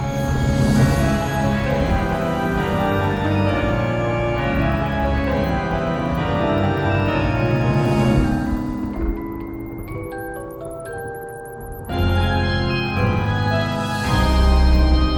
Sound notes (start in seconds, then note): 8.7 spooky magical outro music; 8.7 thunder rumbles; 10.0 bats chirping; 10.0 spooky magical outro music